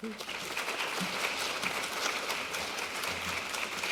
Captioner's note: audience applause